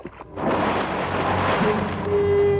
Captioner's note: splash; suspenseful music